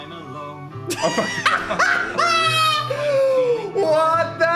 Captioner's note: laugh